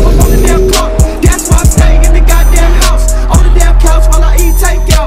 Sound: cars shifting and revving

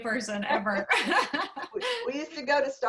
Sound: laughter

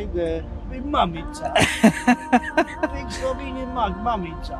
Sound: laughing

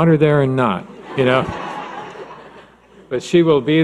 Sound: laughing

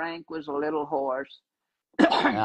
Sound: cough

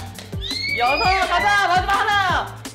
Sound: dolphin sounds

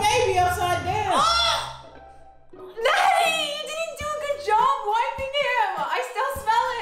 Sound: chokes

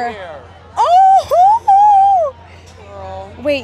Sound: screaming

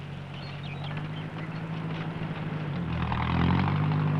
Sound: birds chirping

